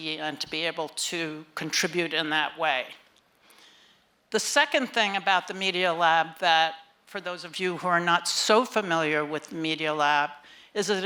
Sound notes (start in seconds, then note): none